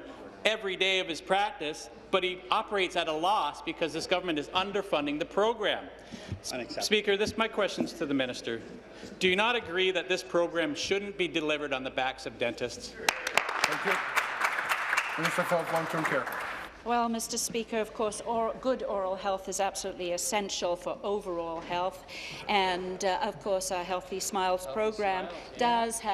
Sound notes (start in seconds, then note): 15.8 applause